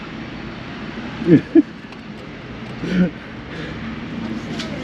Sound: truck brakes screech; laughs

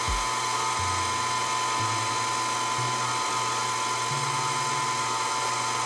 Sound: pasta maker whirring continuing

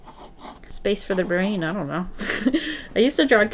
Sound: laughs

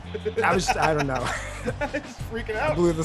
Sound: laugh

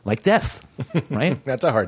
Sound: laughter

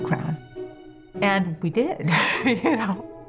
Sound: laughing

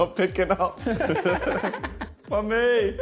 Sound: laughing

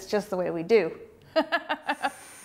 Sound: laughs

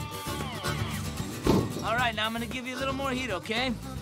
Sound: none

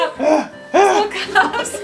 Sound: grunting

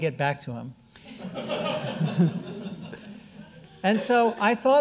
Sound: audience laughing

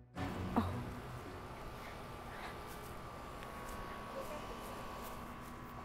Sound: dramatic music playing; Ms. Murphy grunts softly

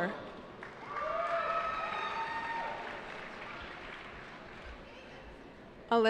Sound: cheering

